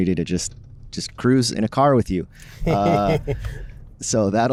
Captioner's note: laughter